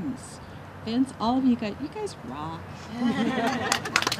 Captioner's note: laughter